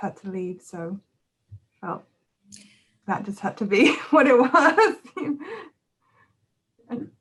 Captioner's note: laughs